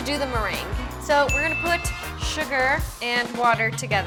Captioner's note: bell dings